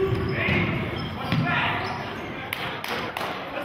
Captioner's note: yelling